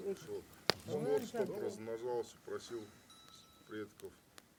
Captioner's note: woman speaking in foreign language in background; speaking in foreign language